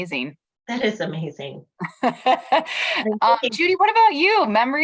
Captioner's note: laughter